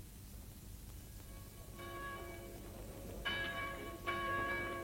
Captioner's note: church bells ringing